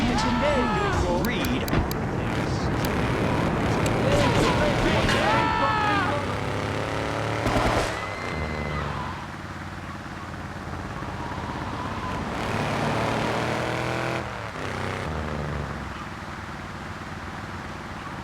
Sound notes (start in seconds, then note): 0.0 screaming